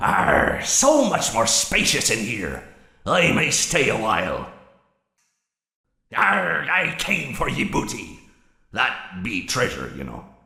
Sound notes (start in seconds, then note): none